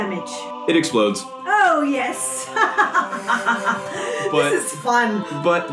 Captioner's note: laughs triumphantly